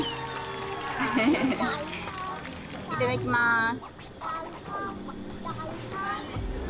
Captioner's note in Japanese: 笑い